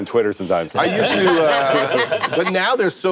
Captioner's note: laughter